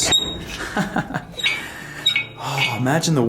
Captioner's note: laughs